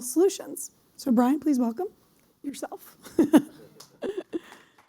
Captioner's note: laughing; applause